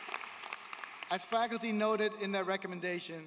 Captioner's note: applause